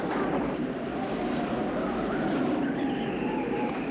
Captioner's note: wind howling